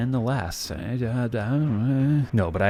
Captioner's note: confused noises